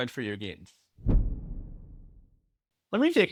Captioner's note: whooshing